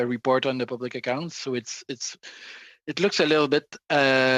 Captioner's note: speaking French